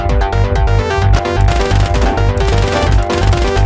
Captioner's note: guns firing